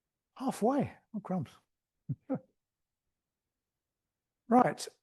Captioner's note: chuckles